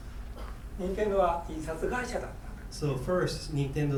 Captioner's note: speaking in foreign language